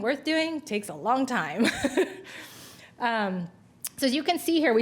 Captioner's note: laughs